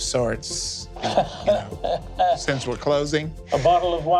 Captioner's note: chuckles